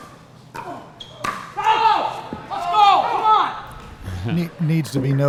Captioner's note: ball being hit; shoes squeaking; players yelling